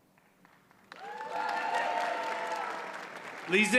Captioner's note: audience cheers and applauds